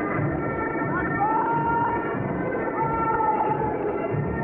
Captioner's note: parade master shouting